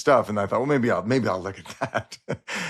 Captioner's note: laughs